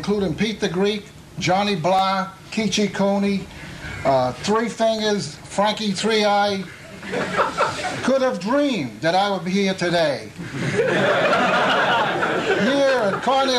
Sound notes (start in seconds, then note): 10.4 laughter